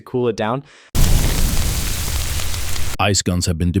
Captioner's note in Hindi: फ्लेम गन शूटिंग।